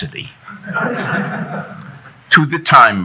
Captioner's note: audience laughing